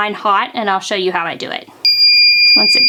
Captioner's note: timer beeps